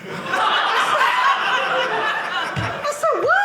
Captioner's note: audience laughing